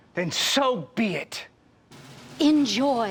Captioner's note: none